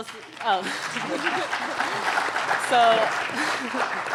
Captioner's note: applauding